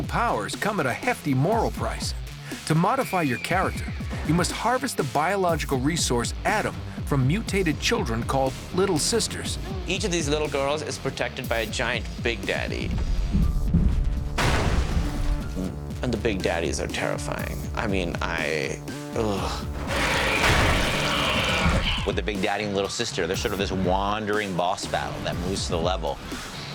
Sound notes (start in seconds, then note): 14.3 crashing; 20.2 splattering